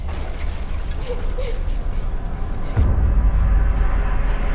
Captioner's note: crying